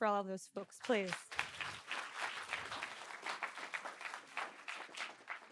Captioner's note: audience applauding